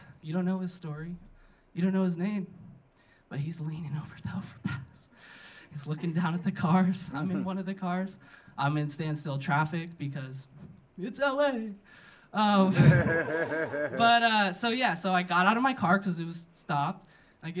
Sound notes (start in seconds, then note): 12.8 audience laughing